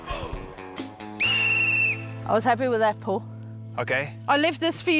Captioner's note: blows whistle